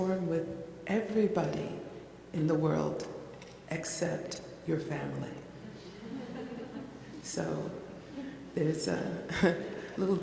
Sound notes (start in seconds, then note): 5.8 laughs